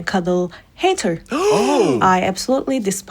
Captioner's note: gasping